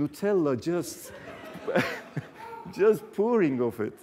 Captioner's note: laughter